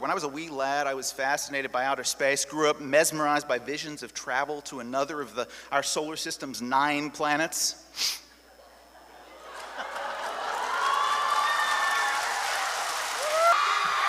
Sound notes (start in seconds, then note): 9.4 cheers